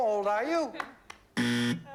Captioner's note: buzzer